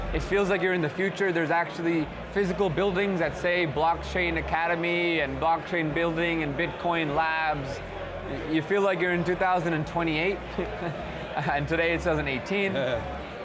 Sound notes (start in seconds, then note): 10.5 laughs